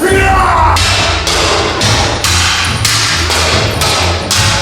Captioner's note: black knight shouts; metal clanging